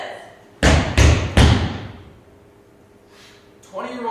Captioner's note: stomps foot on stage